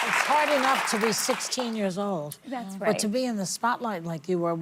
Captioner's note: applause